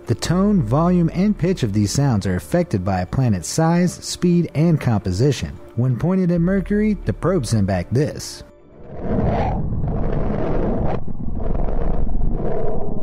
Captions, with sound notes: The tone, volume, and pitch of these sounds are affected by a planet's size, speed, and composition. When pointed at Mercury, the probe sent back this. (eerie noises)